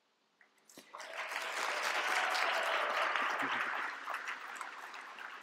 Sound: applause

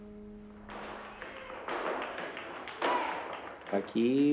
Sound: clapping, foot tapping

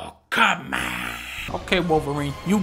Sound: raspy voice

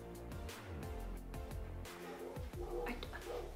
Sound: dogs woofing outside

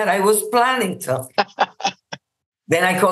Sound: laughs

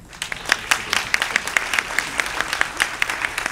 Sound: applause

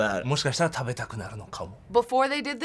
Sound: speaking Japanese

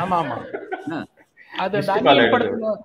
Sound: laughs

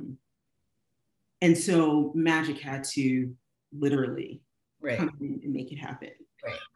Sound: laughing

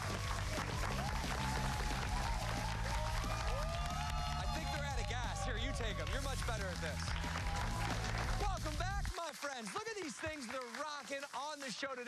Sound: cheers and applause

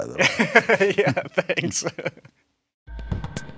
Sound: laughing

